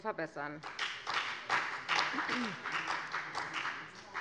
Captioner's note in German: Beifall bei der FDP und bei Abgeordneten der CDU